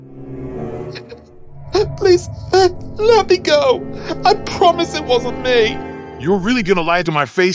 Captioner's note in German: wimmert